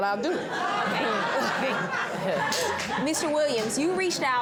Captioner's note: all laughing